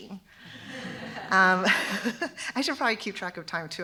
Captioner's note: laughter